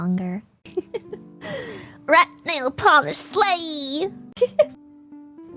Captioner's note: laughs; laughs